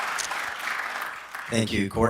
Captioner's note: applause